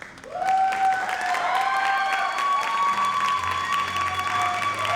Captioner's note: audience cheers and applauds